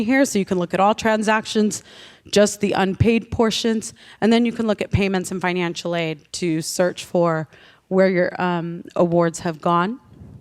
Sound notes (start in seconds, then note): none